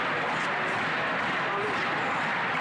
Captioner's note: crowd Noise